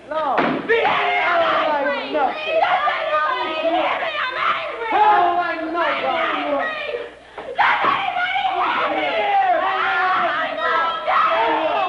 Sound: the performers emote, screaming out their feelings

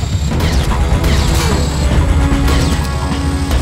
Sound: heavy Machine Gun Fire

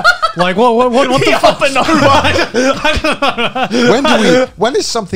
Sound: laughing

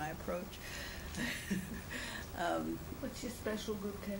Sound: laughs

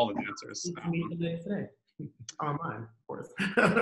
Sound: murmurs; laughs

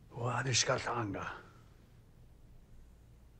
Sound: speaks Osage

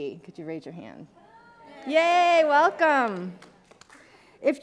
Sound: people cheering

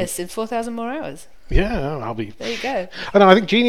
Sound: blows air

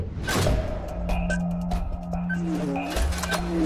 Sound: beeping

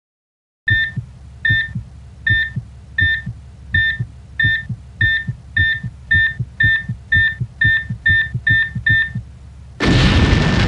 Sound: EKG beeping and heartbeat; explosion

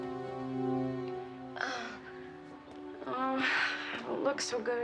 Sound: groaning

